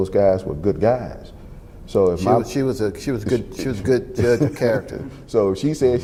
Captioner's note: laughs